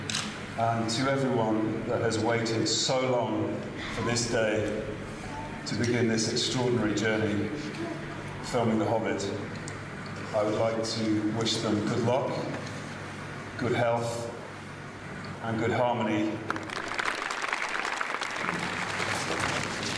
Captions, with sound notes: And to everyone that has waited so long for this day... ...to begin this extraordinary journey... ...filming The Hobbit... ...I would like to wish them good luck... ...good health and good harmony. [APPLAUSE]